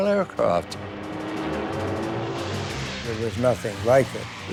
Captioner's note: plane engine roaring